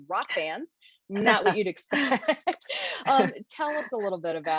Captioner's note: laughs